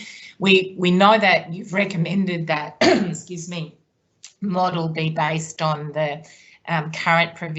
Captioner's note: coughs